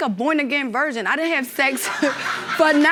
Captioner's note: audience laughing